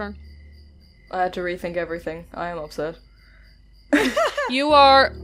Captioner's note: laughter